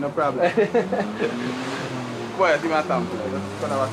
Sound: laughing

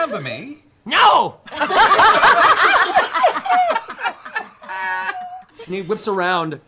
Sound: laughter

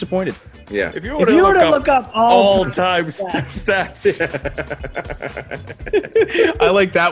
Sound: laugh

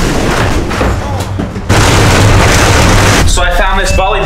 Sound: truck rattles; yells

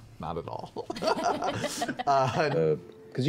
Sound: laughs

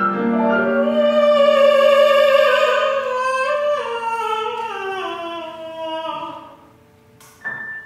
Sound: sung, haunting sigh like Granddaughter's

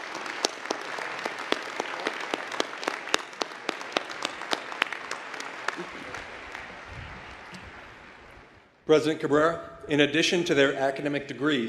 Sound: applause

